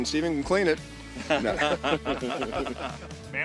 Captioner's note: laughter